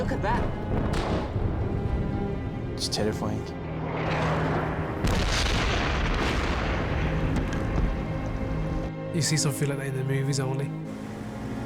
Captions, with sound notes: OH, LOOK AT THAT. IT'S TERRIFYING. [ EXPLOSION ] YOU SEE SOMETHING LIKE THAT IN THE MOVIES ONLY.